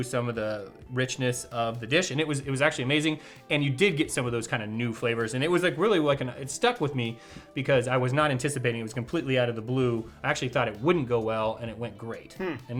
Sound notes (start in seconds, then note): none